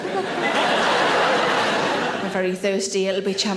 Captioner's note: audience laughs